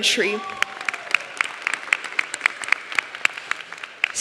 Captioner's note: applause